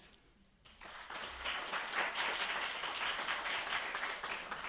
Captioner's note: attendees applauding